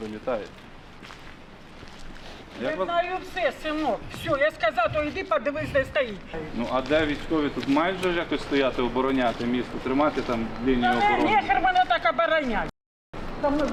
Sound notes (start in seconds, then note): 11.6 swearing